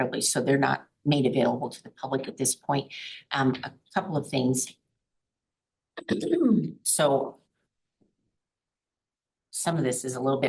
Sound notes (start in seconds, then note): 5.2 clears throat